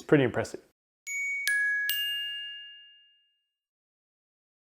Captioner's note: bells chiming